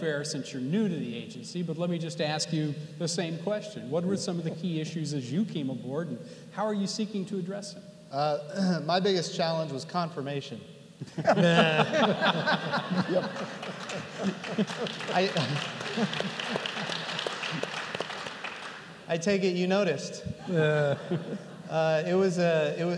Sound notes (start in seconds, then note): 11.0 laughter; 12.9 applause